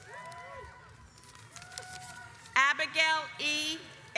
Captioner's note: audience applauds